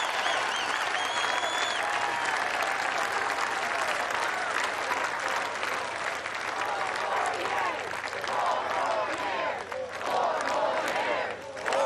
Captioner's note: cheers and applause